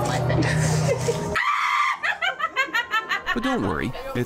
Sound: witch squeals and laughs

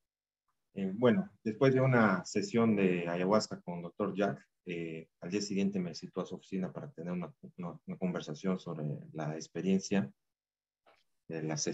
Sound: speaking in spanish

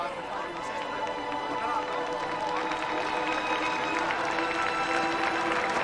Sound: crowd applauding

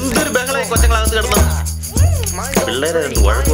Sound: kids continue fighting

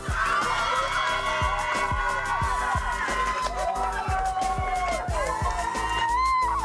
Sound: cheering and applause

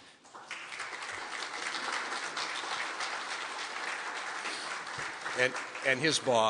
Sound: audience clapping

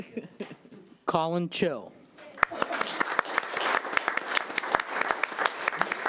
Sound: audience applauding

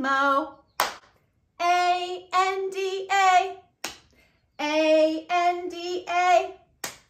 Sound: clap

